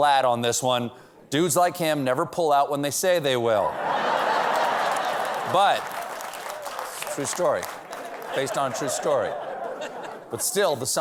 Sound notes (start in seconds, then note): 3.7 laughter; 4.1 applause